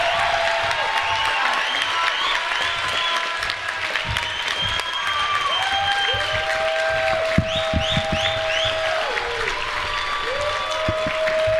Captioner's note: applause